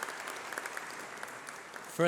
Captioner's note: applause